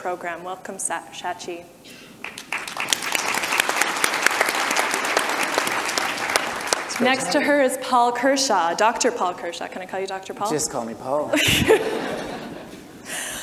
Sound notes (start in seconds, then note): 2.2 audience applause; 11.3 laughter